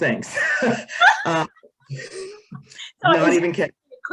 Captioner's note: laughing